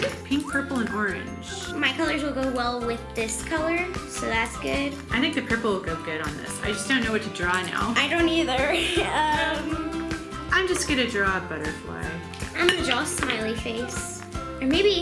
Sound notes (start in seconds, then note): 0.0 both laugh; 8.6 laughs